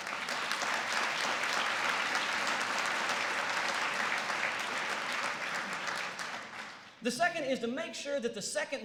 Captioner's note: applause